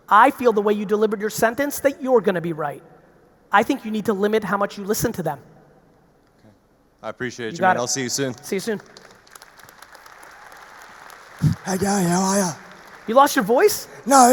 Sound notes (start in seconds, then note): 7.9 audience applauding